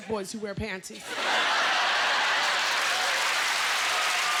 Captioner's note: laughter; cheers and applause